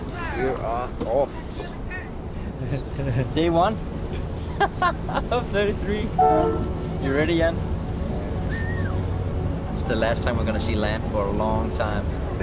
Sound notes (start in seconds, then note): 4.4 laughs; 6.2 boat horn blows